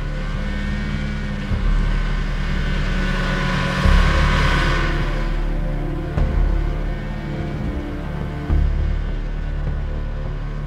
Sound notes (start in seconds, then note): none